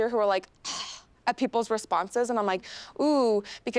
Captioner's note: scoffs